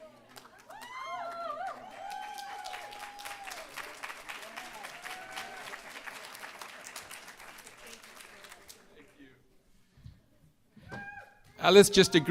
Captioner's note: applause